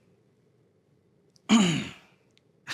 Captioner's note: clears throat